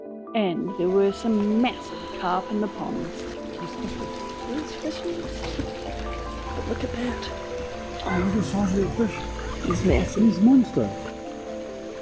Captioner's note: water trickling